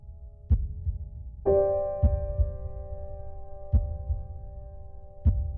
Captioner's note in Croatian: otkucaji srca